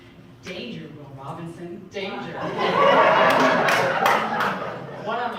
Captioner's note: audience Laughing